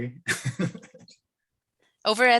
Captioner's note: chuckles